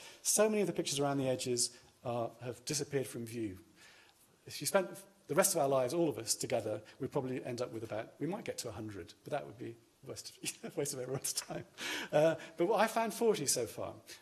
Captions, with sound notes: so many of the pictures around the edges have disappeared from view. If you spent the rest of our lives, all of us together, we'd probably end up with a bag. We might get to a hundred, but that would be a waste of everyone's time [laughs]. I found 40 so far